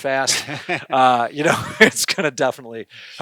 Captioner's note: laughing